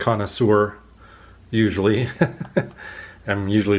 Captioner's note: laughter